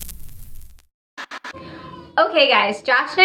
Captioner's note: static noise